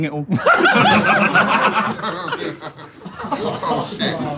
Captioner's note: people in room laughing